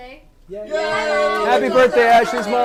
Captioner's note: all cheer